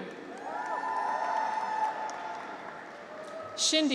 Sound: graduates cheer

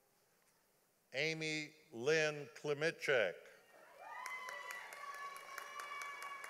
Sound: audience applauding

